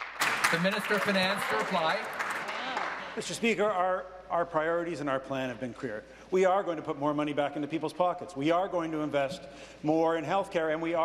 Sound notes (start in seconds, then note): 2.7 applause